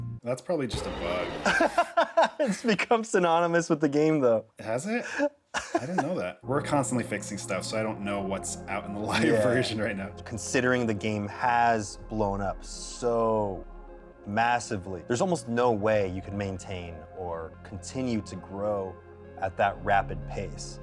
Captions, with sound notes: -That's probably just a bug. - [laughs] It's become synonymous with the game though. -Has it? I didn't know that. We're constantly fixing stuff so I don't know what's out in the live version right now. -Considering the game has blown up so massively, there's almost no way you could maintain or continue to grow at that rapid pace.